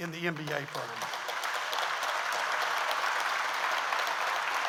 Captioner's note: audience applauds